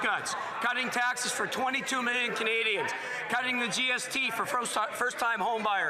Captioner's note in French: voix de l'interprète